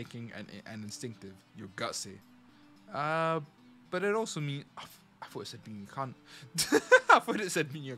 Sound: laughs

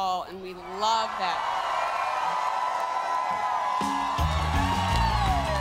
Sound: audience cheering; bright upbeat music

